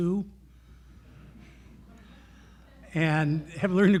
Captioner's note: laughter